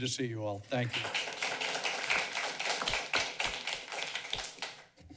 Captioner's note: applauding